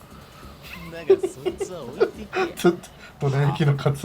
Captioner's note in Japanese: 笑い